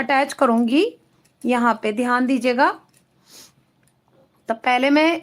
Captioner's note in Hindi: नाक से की जाने वाली आवाज़